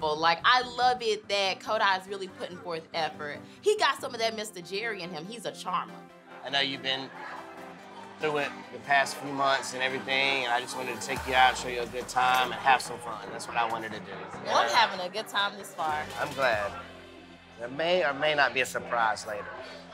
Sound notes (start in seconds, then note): none